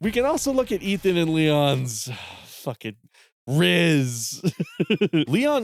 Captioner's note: sigh